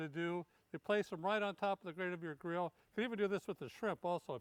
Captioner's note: none